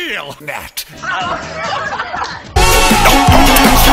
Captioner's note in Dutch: gelach